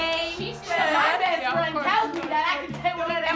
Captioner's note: overlapping chatter